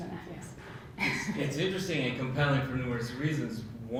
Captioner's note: laugh